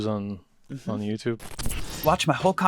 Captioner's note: electricity buzzes